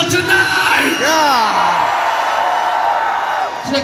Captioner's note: cheering